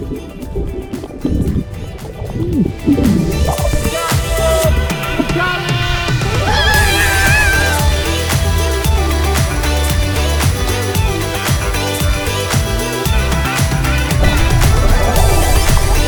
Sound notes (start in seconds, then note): 0.1 upbeat music; 5.7 yells